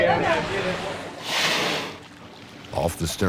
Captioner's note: water sprays